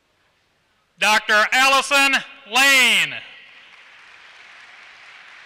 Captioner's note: applause